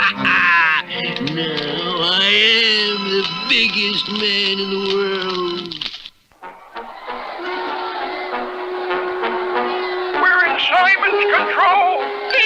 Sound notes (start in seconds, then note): 0.0 Simon Bar Sinister Laughs; 6.4 crowd Roars